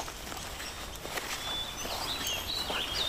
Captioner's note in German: Vogelzwitschern